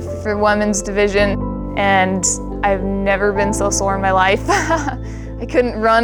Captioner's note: laughs